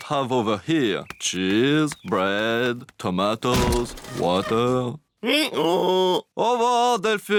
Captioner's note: brays